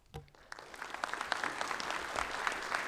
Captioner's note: audience applause